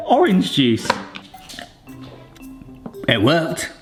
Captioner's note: slurps juice